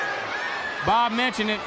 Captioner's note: crowd cheering